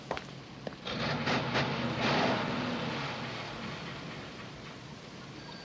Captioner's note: machine chugging